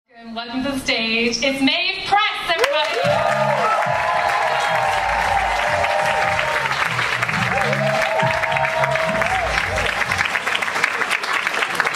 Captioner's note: people clap and cheer YAY!